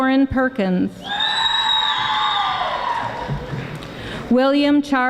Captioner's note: audience applauding